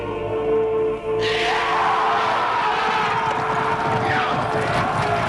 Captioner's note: raiders shouting